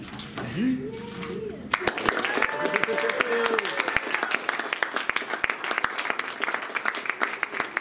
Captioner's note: applause and cheers